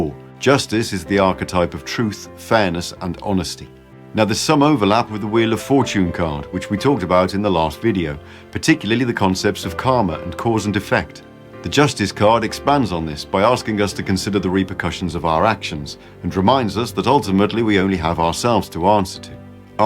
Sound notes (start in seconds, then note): none